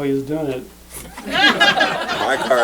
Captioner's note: laughter